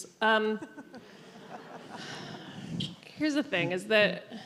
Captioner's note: all laugh